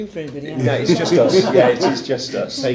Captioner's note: laughing